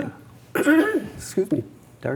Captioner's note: clears throat